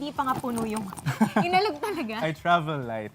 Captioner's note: laughs